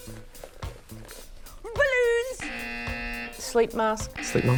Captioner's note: blows whistle